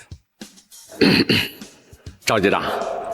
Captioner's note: cough, cough